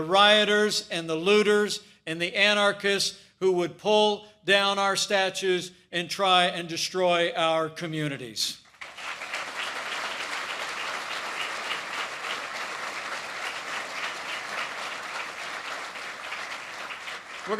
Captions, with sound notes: rioters and the looters and the anarchists who would pull down our statues and try and destroy our communities. (applause) We're going to support law enforcement as